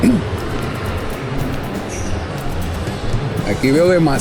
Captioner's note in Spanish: carraspeo